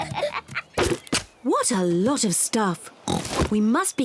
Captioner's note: oinks